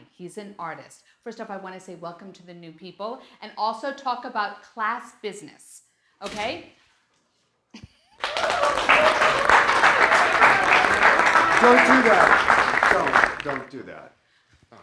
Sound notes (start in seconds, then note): 6.5 door opening; 8.2 class cheering